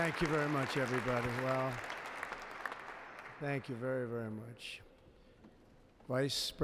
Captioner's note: applause